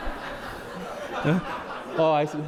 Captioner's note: audience laughs